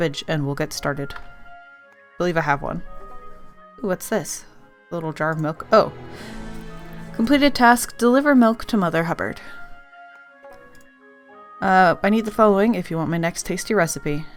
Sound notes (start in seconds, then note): none